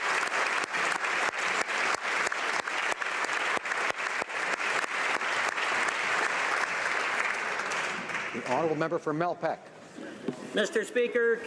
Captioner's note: applause